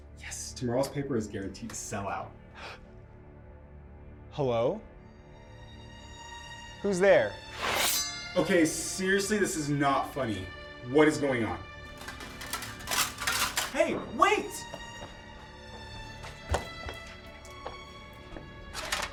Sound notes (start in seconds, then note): 3.8 gasps; 7.5 sword swishes; 15.0 gentle dramatic music